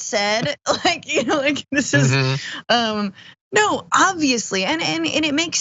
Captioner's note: laugh